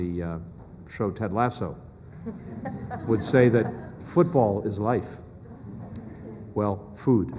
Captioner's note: laughter